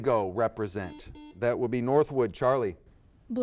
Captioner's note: buzzer beeps